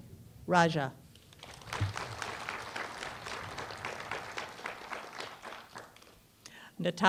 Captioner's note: applause